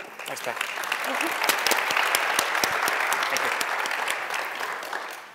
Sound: applause

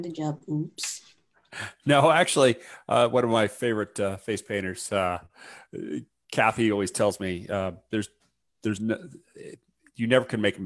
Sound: chuckles

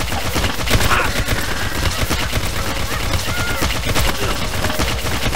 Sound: loud Laughing

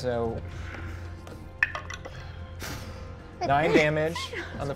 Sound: dice clicks

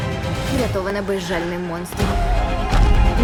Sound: growls

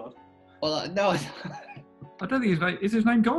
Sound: laughing

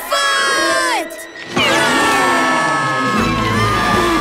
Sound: screaming

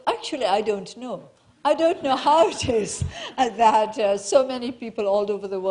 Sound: laughing

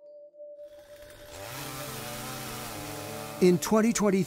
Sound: chainsaw buzzing

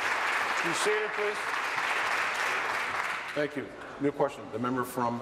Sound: applause

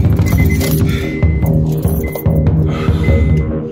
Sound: heavy breathing

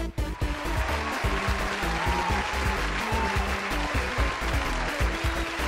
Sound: applause

